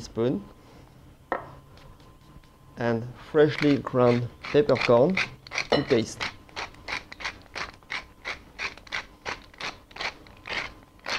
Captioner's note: grinding sounds